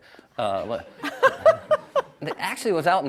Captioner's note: laughs